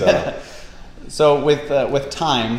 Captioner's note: laughs